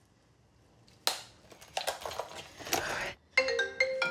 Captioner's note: makeup rattling; phone ringing